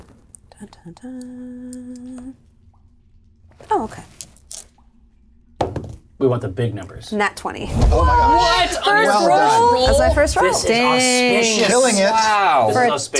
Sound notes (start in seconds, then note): 3.0 dice rattle